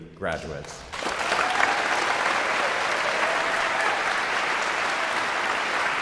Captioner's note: guests cheering and applauding